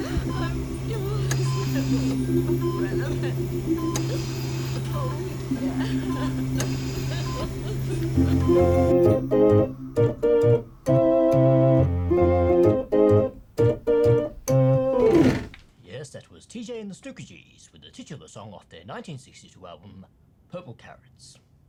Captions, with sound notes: I'm your host, Neville Umbrellaman. Oh, yeah. (cries) (upbeat music) - Yes, that was TJ and the Snookergees with the titular song of their 1962 album "Purple Carrots."